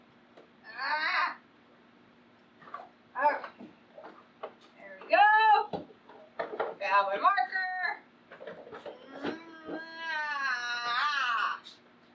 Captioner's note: groans